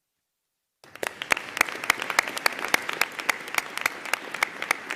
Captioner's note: audience applauding